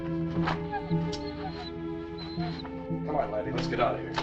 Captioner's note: dog whimpers